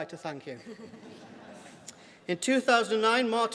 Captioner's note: laughter